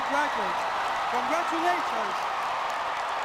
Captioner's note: audience cheering